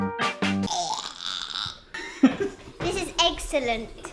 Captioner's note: maniacal laugh; laughter